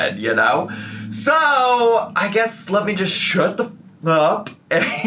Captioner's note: hushed